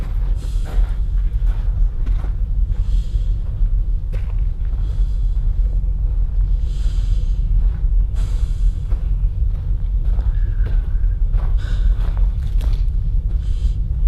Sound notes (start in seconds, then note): 1.0 heavy breathing